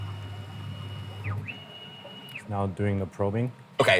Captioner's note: machine whirring